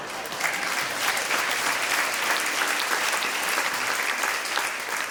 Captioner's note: applause